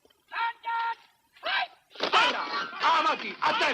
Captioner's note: shouting continues